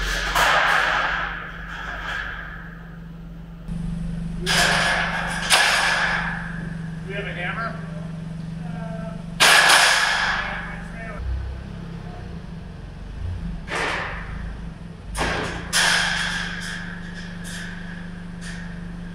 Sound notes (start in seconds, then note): 10.7 metal clanging